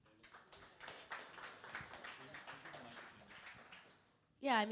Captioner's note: crowd applauding